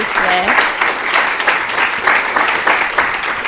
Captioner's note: applause